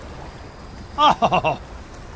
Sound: laugh

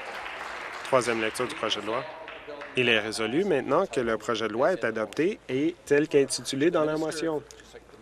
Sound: applause

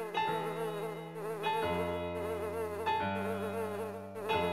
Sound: fly buzzing

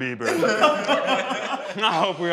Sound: group laughs

